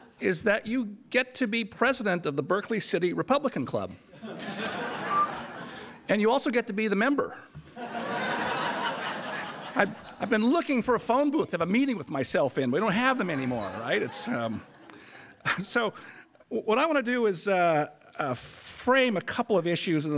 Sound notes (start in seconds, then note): 4.1 laughter; 5.0 whistles; 7.7 audience laughter